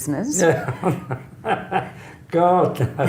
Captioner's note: laughs